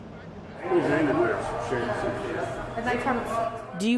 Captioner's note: people chatting